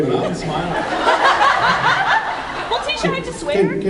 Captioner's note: laughs